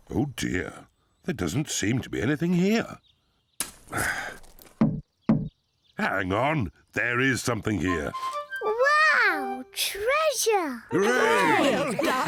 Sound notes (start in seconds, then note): 4.9 hollow thud